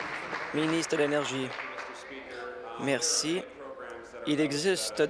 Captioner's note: applause